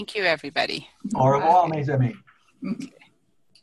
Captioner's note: speaking french